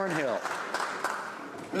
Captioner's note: some Applause